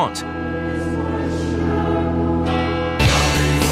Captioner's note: bell tolls, choir sings; rock music plays